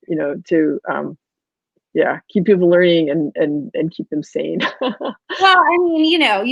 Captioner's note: laughs